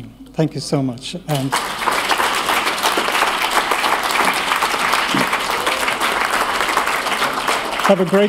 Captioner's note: applause